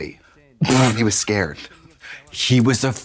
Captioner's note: Katya splutters